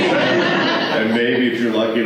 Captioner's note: laughter